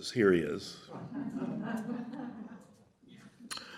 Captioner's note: laughter